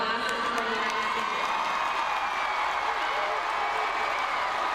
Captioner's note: crowd cheering